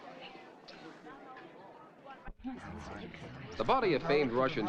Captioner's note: crowd frantically whispering